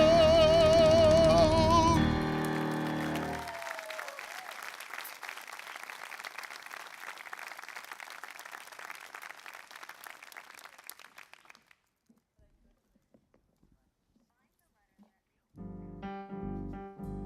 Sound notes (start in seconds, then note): 2.3 applause